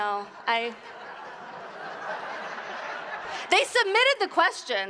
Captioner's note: audience laughs